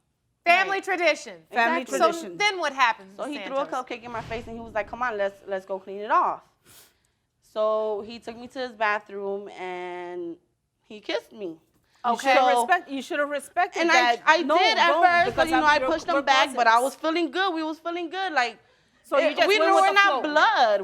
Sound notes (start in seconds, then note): none